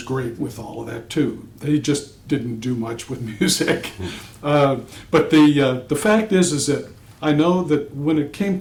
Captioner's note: laughter